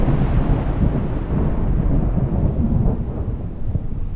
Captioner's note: thunder rumbles